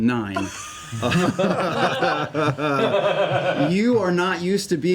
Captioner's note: laughter